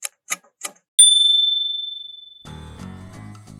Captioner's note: timer ticking; ding!